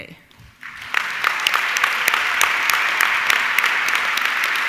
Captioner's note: audience clapping